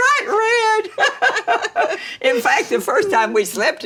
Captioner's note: both laughing